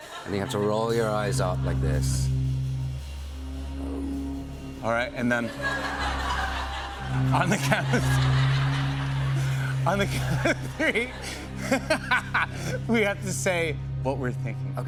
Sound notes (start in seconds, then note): 6.0 laughter; 8.7 laughs; 11.8 laughs